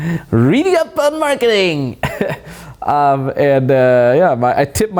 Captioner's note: laughs